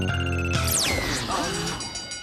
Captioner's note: bell ringing